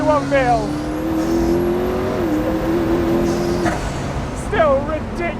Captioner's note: engine rumbling